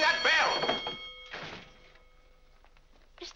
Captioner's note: ringing stops